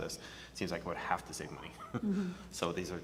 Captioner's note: laughs